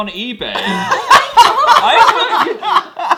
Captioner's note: all laugh